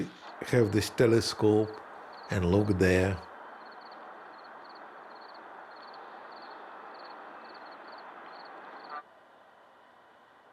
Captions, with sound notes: So we have this telescope and look there. (crickets chirping)